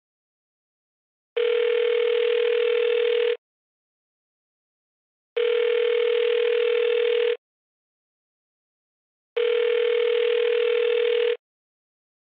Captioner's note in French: Sonnerie de téléphone